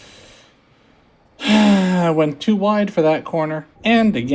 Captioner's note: sigh